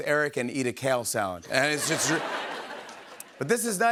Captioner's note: laughter